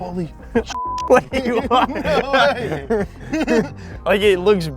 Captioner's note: laughing in disbelief